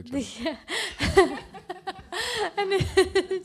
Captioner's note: laughs